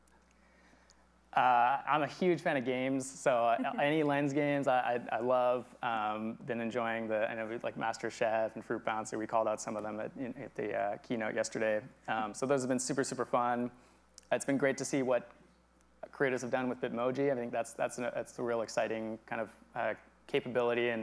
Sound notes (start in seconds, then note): 3.4 chuckles